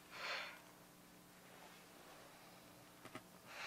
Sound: sighs

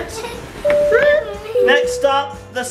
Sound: doorbell ringing

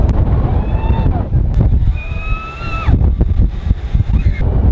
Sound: screams

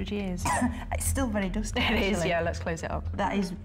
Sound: coughs

